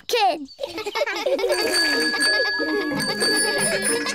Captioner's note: all laugh; bicycle bell ringing